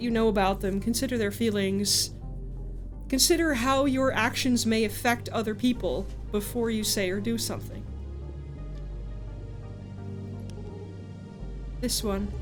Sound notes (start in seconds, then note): none